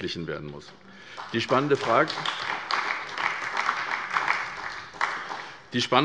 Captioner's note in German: Beifall bei der SPD